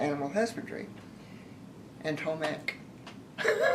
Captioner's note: laughter